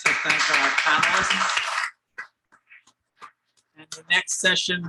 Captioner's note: audience clapping